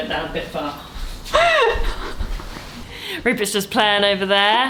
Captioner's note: laughs